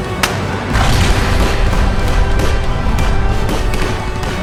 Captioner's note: explosion bangs